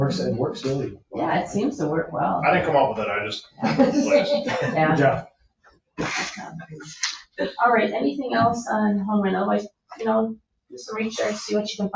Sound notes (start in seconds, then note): 3.6 people chuckle